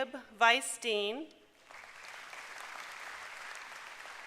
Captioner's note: applause